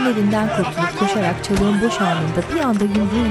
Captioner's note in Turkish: Yumruk sesi